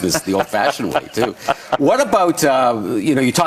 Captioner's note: laughing